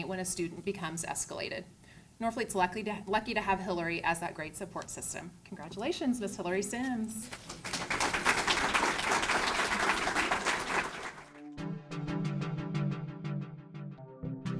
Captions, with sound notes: when a student becomes escalated. Norfleet's lucky to have Hilary as that great support system. Congratulations Miss Hilary Sims. (clapping) (upbeat music)